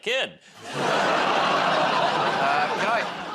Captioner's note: laughter